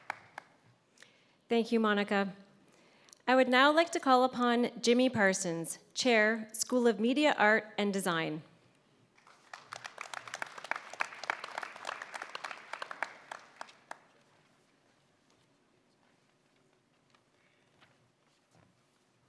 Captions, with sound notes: Thank you, Monica. I would now like to call upon Jimmy Parsons, Chair - School of Media, Art and Design. [Applause]